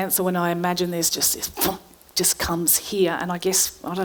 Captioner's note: grabs a breath